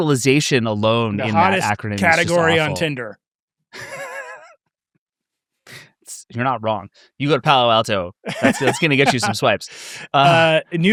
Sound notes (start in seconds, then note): 3.8 laughs